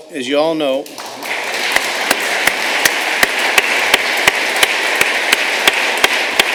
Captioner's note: applause